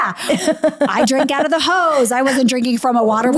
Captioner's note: laughing